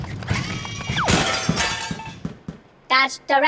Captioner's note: crashing